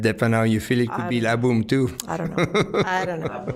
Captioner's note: laughing